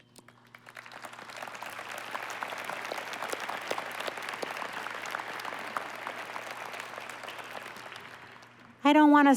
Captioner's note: applause